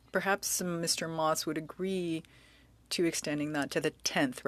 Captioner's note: speaking French